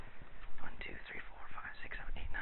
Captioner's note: whispers, counting to self